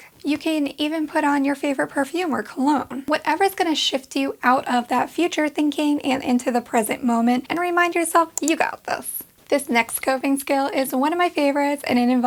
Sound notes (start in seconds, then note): 8.3 clicking